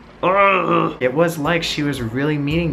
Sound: sighing

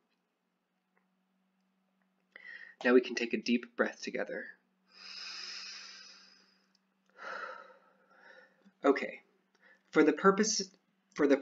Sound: inhales deeply, exhales deeply

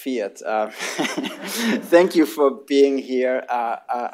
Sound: laughter

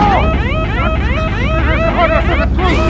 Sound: siren sounds

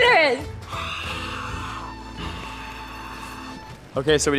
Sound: mimics crowd cheering

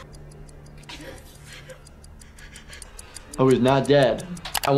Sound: person breathing heavily; clock ticking

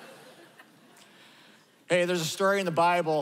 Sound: laughter

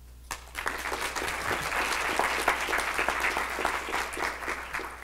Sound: clapping

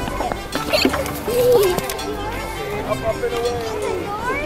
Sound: squealing

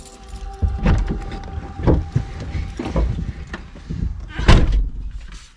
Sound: music fades out to nothing as van door audibly unlocks and doors open; car keys jangle, and door closes loudly

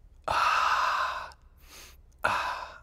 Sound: sniffs

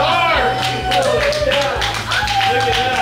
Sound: crowd clapping

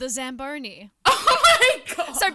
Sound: laughs

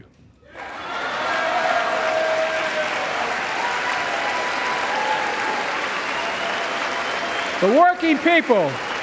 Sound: applause

